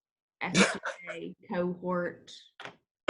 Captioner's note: laughs